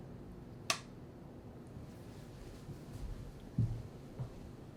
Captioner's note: sonido de claqueta; golpeteo de pies